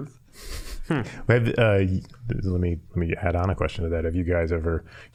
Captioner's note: chuckling